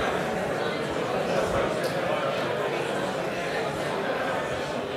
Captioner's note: audience talking